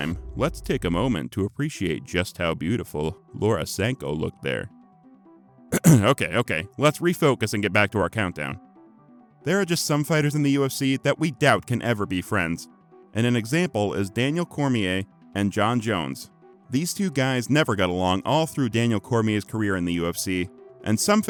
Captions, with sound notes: let’s take a moment to appreciate just how beautiful Laura Sanko looked there. *coughs* Okay, okay…let’s refocus and get back to our countdown… There are just some fighters in the UFC that we doubt can ever be friends, and an example is Daniel Cormier and Jon Jones. These two guys never got along all through Daniel Cormier's career in the UFC and some